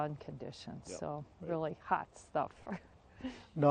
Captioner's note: laughs